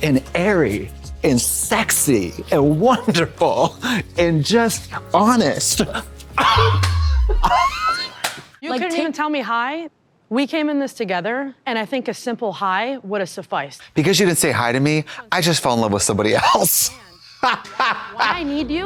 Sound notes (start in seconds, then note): 6.3 Katya claps and crinkles; 17.1 blonde Women guffaw